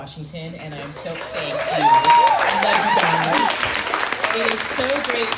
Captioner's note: crowd cheering